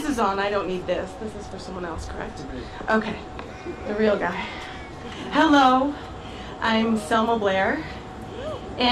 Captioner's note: laughter